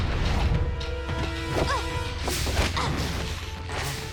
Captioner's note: grunting